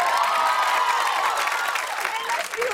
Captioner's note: cheers and applause